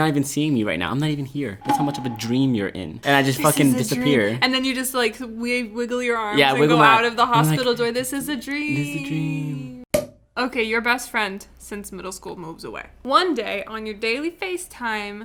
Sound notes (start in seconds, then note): 10.0 cork popping sound